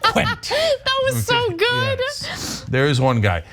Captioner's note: laugh